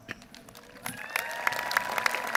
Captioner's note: applause